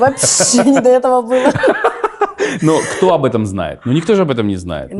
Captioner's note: laughs